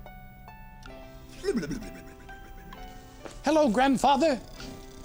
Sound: snoring

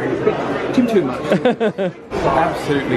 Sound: mutters

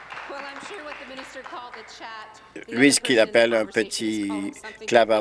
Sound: applause

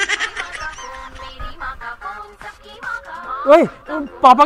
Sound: cellphone ringing

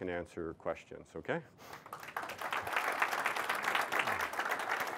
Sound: applause

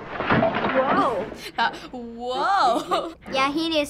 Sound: giggling

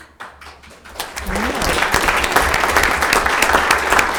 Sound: audience applauding

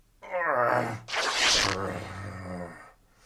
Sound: shirt rips

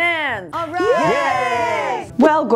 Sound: cheers

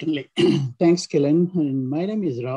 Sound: clears throat

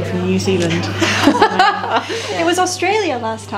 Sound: laughs

